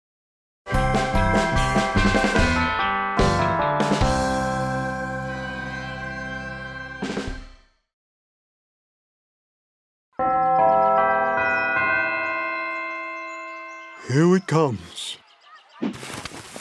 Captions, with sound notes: [BELL CHIMES] -Here it comes.